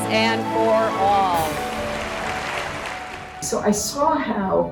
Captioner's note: crowd applauding